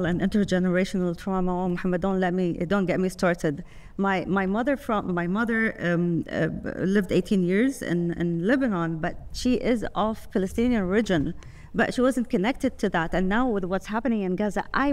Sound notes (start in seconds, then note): none